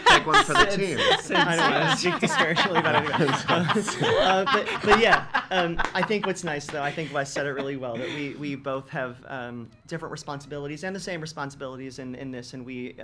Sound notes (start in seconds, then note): 1.9 laughing